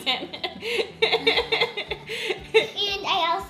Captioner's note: laughing